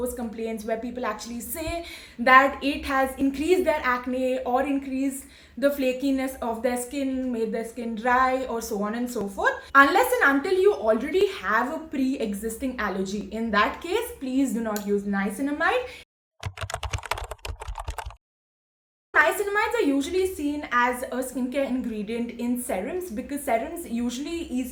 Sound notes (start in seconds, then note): 16.4 typing sound